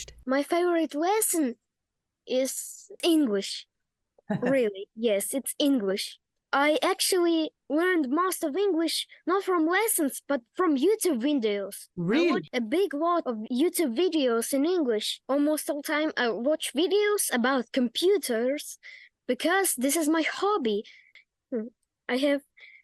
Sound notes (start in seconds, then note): 4.3 laughter